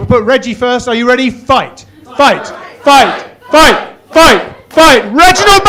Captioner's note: chanting